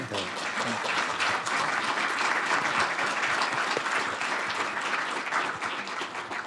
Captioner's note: applause